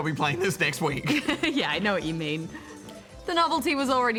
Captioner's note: laughs